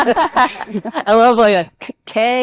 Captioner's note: participants laugh